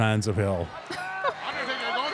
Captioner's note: audience cheering; laughs